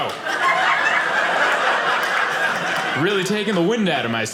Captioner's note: audience laughing